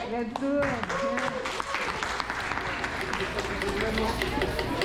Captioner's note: applause